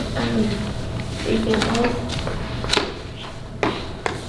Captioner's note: whispering